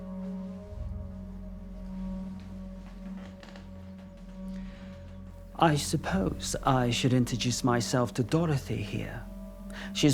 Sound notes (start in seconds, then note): 1.7 chair creaking